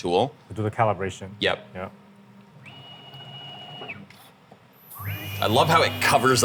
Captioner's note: machine whirring